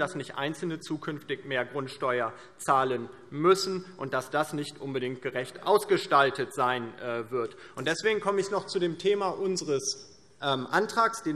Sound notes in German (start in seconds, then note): none